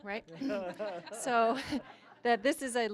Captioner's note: all laughing